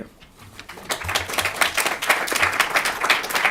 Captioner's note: applause